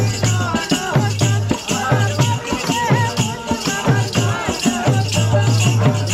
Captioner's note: chanting